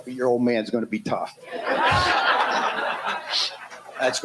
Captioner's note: laughter